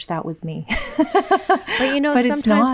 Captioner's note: laughing